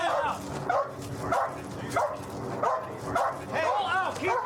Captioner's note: dog barking